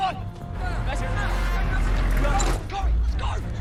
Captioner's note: soldiers shout